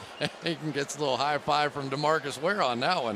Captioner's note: chuckles